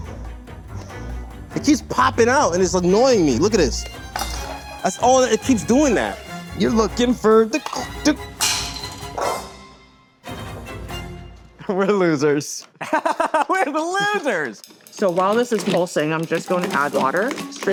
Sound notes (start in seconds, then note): 12.7 laughing